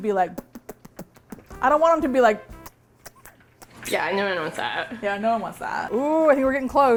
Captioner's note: rhythmic puckering sounds; irregular smooch sounds